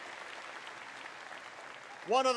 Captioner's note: applause